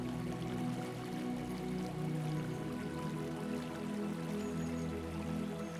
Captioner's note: water trickling